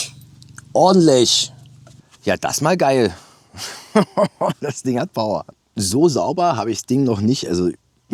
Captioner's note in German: gelächter